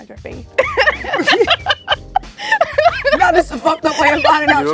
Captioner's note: laughs